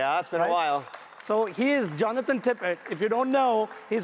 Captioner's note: audience applauds